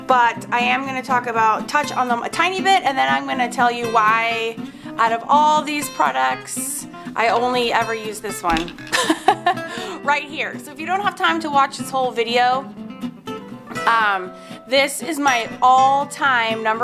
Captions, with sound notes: but I am gonna talk about, touch on them a tiny bit. And then I'm gonna tell you why out of all these products, I only ever use this one. (laughs) Right here, so if you don't have time to watch this whole video, this is my all time number one,